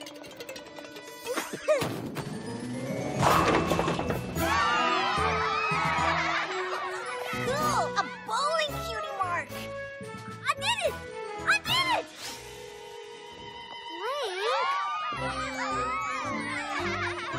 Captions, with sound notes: PEH! [ PONIES CHEERING ] COOL! A BOWLING CUTIE MARK! I DID IT! I DID IT! BLANK? [ PONIES CHEERING ]